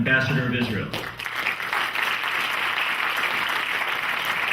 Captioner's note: clapping